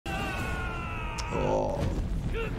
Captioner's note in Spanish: luchador gritando